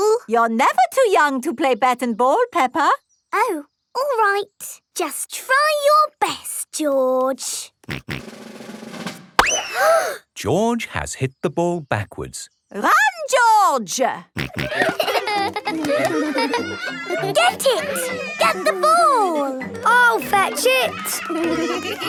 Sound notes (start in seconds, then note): 9.1 bang; 9.6 children gasp